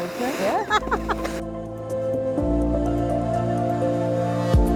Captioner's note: laughs